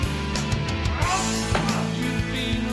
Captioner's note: Gene groans